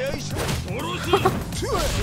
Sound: chuckles

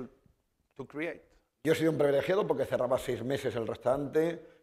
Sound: speaking spanish

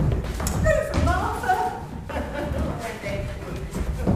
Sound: she chuckles

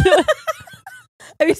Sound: both laugh

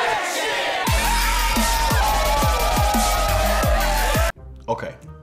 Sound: everyone cheering

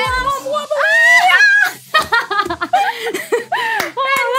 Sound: laughs

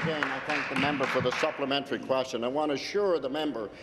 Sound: applause

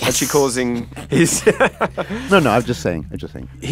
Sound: laughs

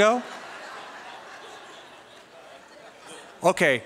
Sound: laughter

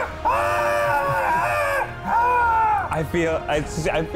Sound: more screaming; screaming

